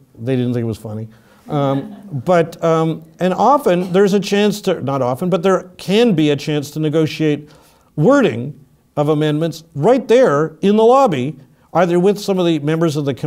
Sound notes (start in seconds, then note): 1.6 laugh; 3.7 cough